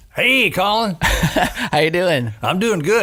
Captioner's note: laughing